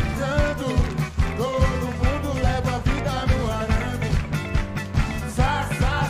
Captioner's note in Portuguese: aplausos